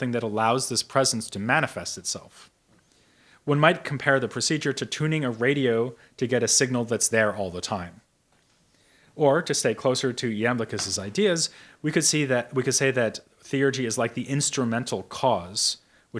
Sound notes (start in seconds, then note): none